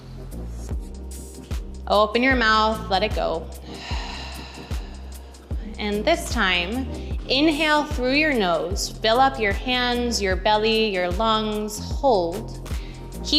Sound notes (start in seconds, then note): 3.5 exhales